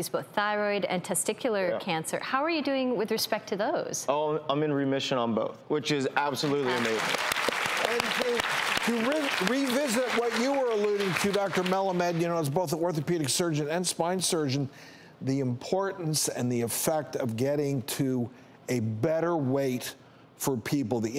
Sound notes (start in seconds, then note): 6.4 applause